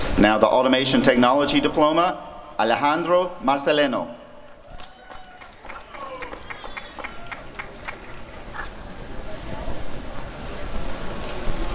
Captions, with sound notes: Now the Automation Technology Diploma— Alejandro Marceleno [applause and cheering]